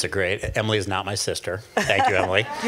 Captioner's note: laughs